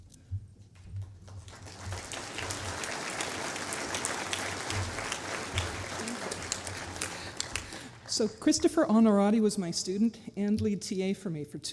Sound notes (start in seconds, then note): 0.9 applause